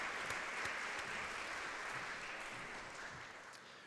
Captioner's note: audience clapping